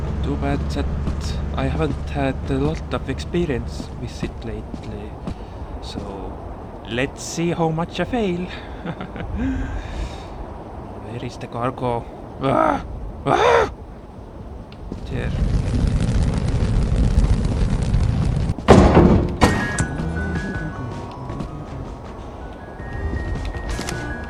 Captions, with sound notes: Too bad that I haven't had a lot of experience with it lately... So... Let's see how much I fail! [Nervous laughter] Where is the cargo? [Frustrated noises] There. [Humming along the music]